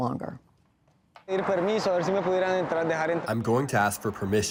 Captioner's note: speaking in foreign language